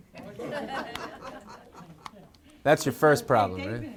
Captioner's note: laughing